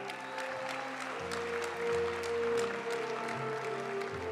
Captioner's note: audience cheering and applauding; graduation music